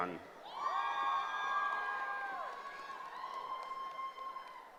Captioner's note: cheering